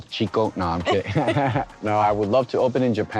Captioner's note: both laugh